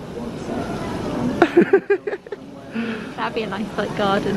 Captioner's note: laughing